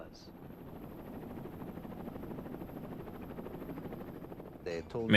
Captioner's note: helicopter whirring